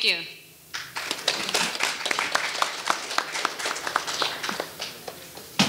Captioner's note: audience applauding